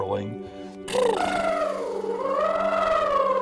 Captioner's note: high-pitch trill